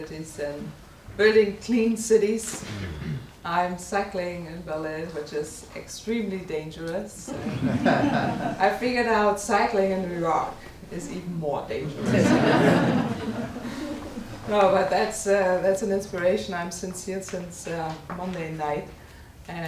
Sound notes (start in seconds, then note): 7.3 audience laughing; 11.9 audience laughing